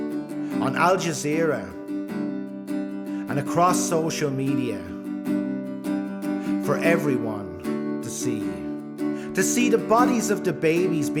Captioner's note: Irish language